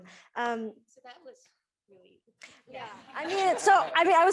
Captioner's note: chuckles